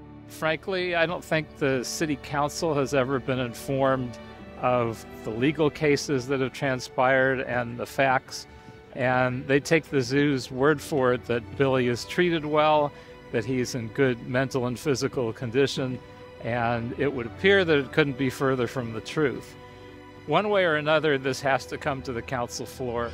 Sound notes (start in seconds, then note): none